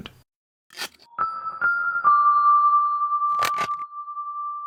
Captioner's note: bells chiming